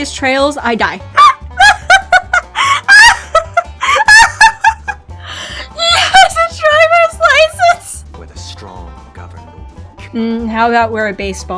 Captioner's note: laughter